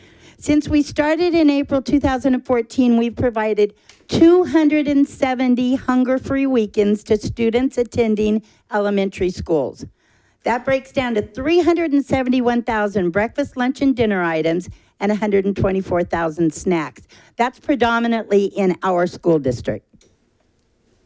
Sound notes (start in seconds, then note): none